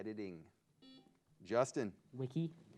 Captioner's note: buzzer beeps